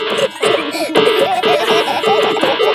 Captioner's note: dissonant music; laughter